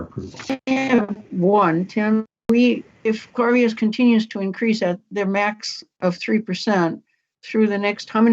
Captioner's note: audio breaks up